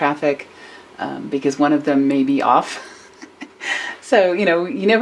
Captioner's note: chuckles